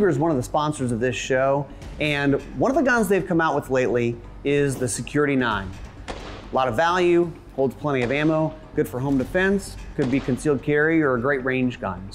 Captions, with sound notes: - Ruger's one of the sponsors of this show. And one of the guns they've come out with lately, is the Security-9. (gunshot) Lot of value. Holds plenty of ammo. (gunshot) Good for home defense. (gunshot) Could be concealed-carry or a great range gun.